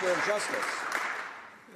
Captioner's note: some Applause